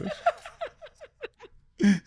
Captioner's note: laughing